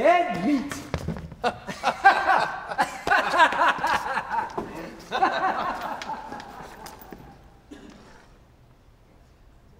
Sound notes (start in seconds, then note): 1.3 both laughing